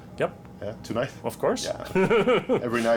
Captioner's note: chuckles